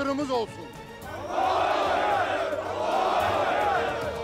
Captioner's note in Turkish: Hep bir ağızdan